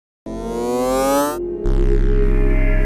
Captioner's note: winding up noise